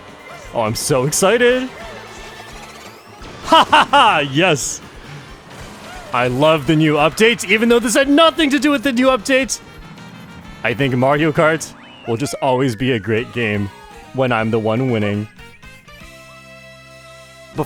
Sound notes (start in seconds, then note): 3.4 laughs